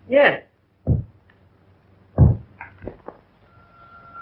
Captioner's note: thumping